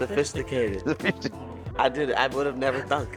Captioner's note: snickers